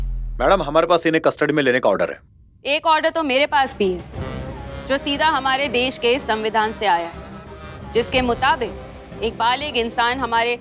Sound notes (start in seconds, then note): none